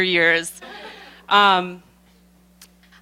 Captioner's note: laughter